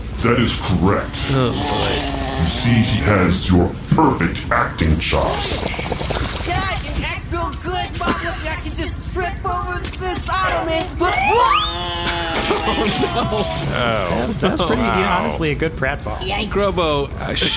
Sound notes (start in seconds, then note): 10.2 comical slide whistle as Grobo slips and falls into a squelching pile